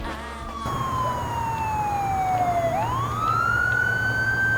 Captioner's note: police siren